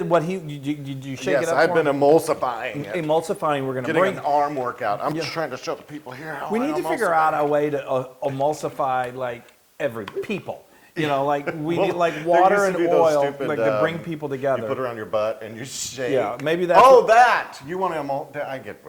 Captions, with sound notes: >> Yes. >> So did you shake it up for them? >> Yes, I've been emulsifying it. >> Emulsifying, we're going to bring- >> Getting an arm workout. I'm trying to show people here how I emulsilate. >> Emulsified like every people. >> [LAUGH] >> You know, like we need water and oil to bring people together. >> You put it around your butt and you shake. >> Yeah, maybe that's what- >> That, you want to emulsify.